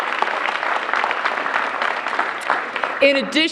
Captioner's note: applause